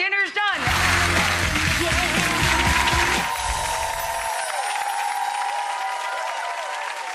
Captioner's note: rock 'n roll music; audience applauding